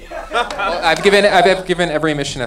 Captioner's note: laughing